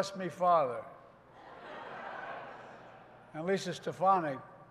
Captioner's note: laughter